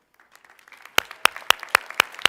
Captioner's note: applause